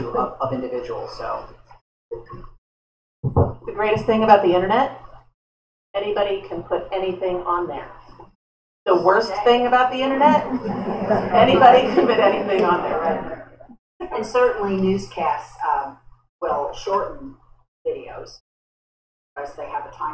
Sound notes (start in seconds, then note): 10.2 laughter